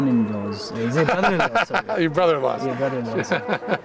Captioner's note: laughs